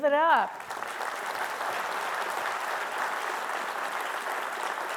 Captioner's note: audience clapping